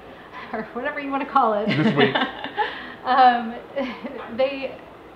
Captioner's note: laughing